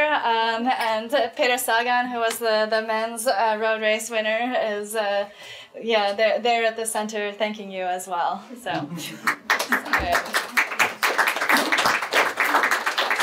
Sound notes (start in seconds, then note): 8.8 audience members laughing; 9.1 audience applauds